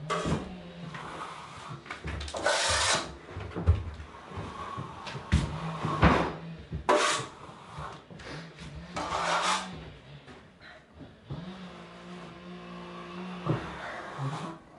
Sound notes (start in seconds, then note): none